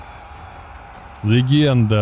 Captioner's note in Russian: крик